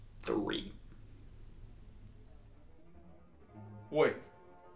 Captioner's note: awkward pause